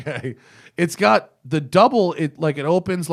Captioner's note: laughter